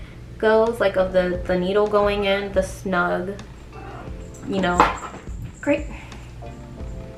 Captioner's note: dog knocks something over